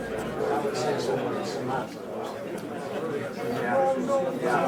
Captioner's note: crowd chatter overlapping